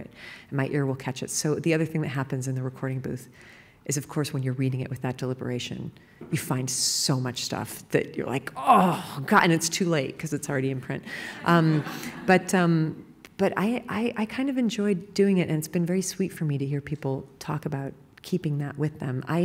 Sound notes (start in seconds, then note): 11.4 laughter